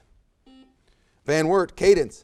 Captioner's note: buzzer